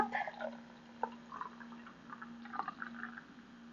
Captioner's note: liquid pouring